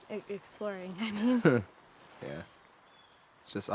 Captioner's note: both chuckle